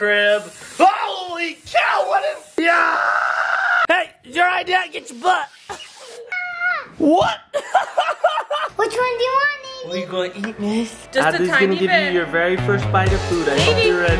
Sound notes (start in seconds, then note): 0.4 spray and gasp; 6.2 little girl shouts; 7.5 laughs